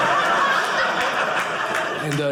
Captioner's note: audience laughing